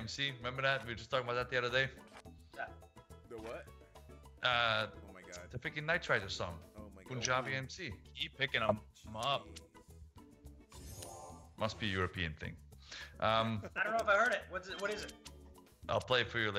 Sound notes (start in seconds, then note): 12.7 laugh